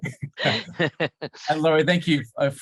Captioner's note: laughter